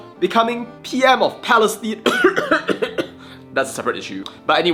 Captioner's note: cough